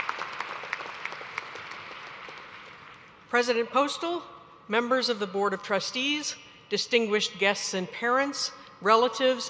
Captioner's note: applause